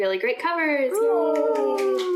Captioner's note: claps clap